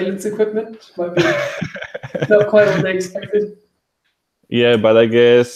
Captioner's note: laughing